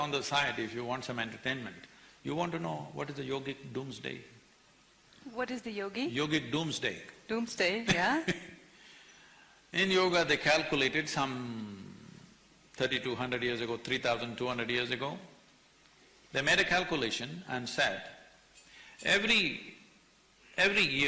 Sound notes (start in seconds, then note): 9.8 laughs